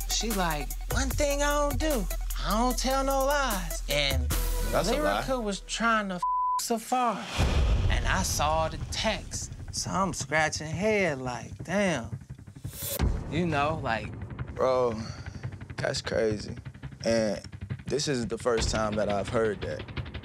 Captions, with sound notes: She's like, "One thing I don't do, "I don't tell no lies." - That's a lie. - "And Lyrica was trying to (beep) Safaree "and I saw the texts." So I'm scratching head like, "Damn." You know, like... - Bro, that's crazy, and this isn't the first time that I've heard that.